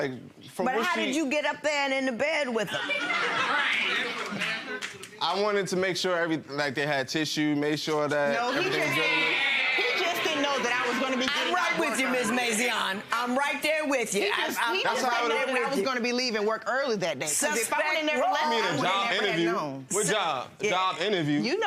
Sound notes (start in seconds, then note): 2.7 audience laughing